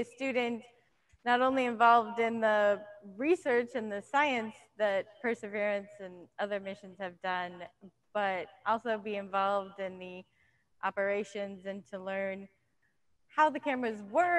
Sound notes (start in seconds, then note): none